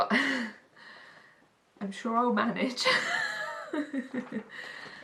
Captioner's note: laughs